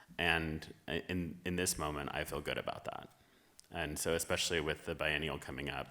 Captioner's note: none